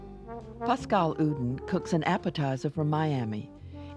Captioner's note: voiceover